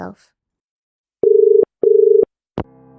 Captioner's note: dial tone